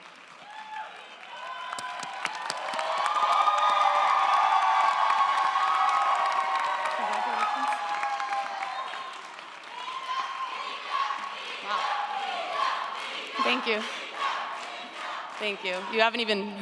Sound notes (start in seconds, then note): 2.3 audience applauds & cheers; 9.7 audience chants; 13.2 chanting continues